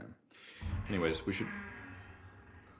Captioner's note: door opens